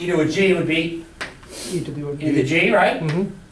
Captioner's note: voiceover